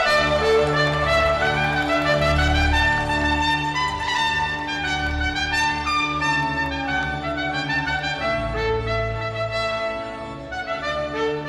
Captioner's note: cheering and applause